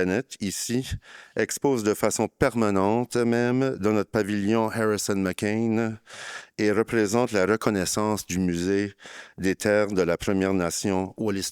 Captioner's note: speaking in French